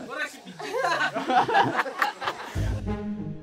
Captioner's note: laughs